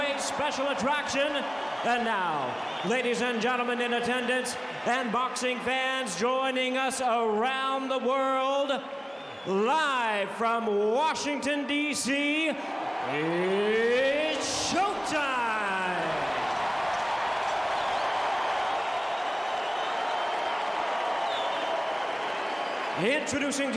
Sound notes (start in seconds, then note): 16.2 applause